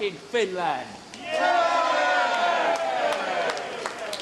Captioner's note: all cheer